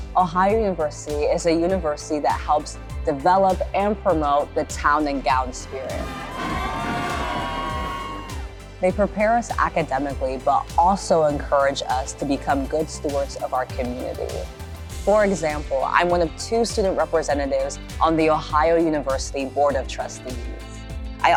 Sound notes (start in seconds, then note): 6.0 band music; 7.3 people cheering